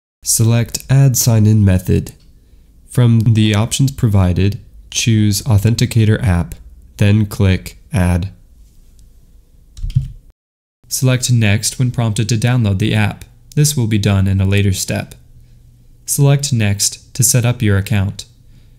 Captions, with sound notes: Select "add sign-in method." From the options provided, choose "authenticator app," then click "add." [click] Select "next" when prompted to download the app. This will be done in a later step. Select "next" to set up your account.